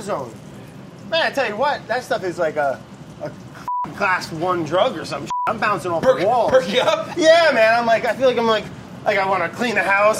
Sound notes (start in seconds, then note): 3.6 beeps; 5.2 beeps; 6.0 laughs